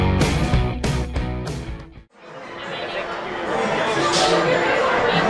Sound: crowd noise as people talk while waiting in line

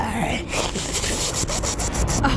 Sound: slurping sounds

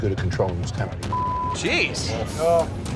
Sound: beep

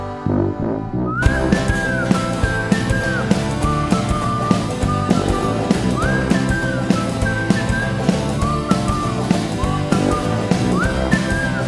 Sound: whistling

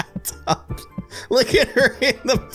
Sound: laughter

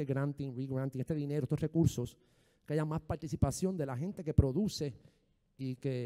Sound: speaking in foreign language

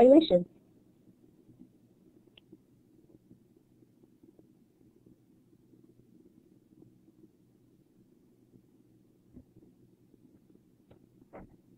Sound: silence

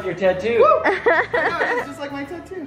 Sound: laughs

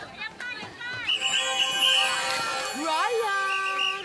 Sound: sparkling noise

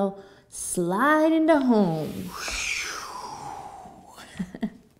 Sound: makes whooshing noise; laughs

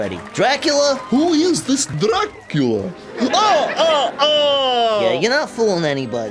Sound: laughs

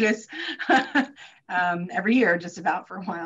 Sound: chuckles

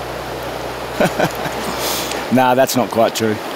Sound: chuckles

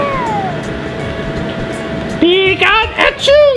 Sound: laughs

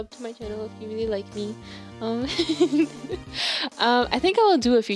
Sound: laugh

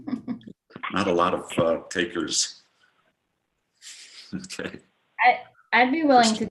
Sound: chuckles

